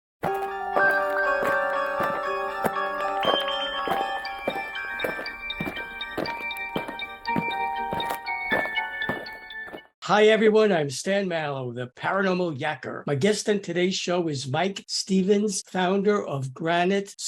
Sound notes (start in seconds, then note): 0.2 eerie music; 4.6 aliens marching